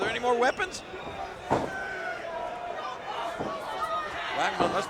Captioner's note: crowd shouting